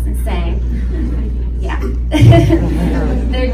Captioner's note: laughs and Audience laughs